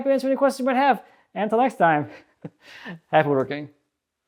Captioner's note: laughs